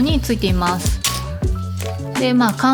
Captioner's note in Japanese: タグを引きちぎる音